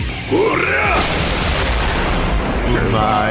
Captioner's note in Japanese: うめき声